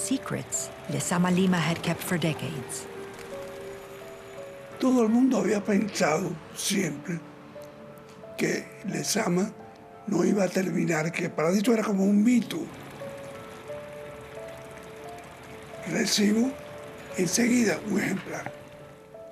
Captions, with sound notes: were secrets Lezama Lima had kept for decades. -[ Speaking Spanish ]